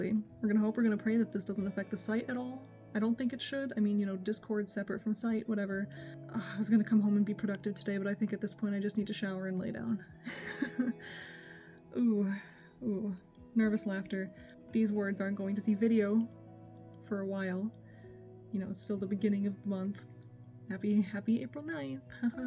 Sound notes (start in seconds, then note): 10.2 laughs